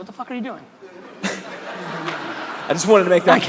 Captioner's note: crowd laughter